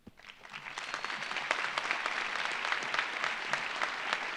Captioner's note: audience applauding